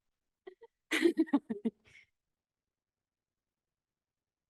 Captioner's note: laughing